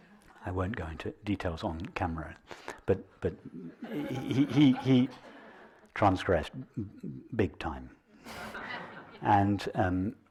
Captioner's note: nevetés